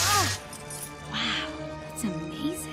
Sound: screaming

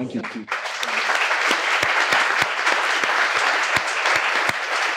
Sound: participants applauding

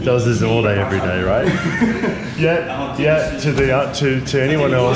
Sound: laughing

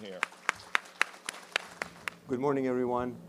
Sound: applause

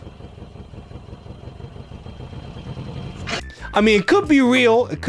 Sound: engine revving

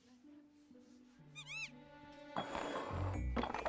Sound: critter squeaks

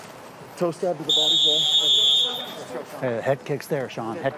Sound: whistle blows

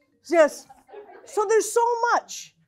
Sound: laughing

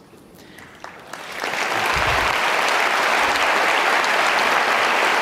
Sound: audience clapping

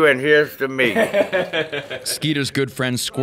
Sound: laughing

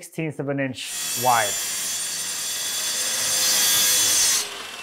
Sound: saw brattling

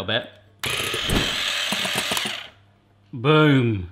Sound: mixer whirring

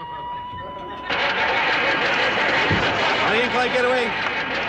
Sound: engine sputters

